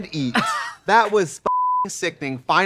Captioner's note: Katya laughs; beeping